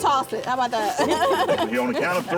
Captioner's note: laughs